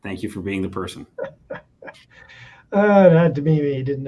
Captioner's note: chuckles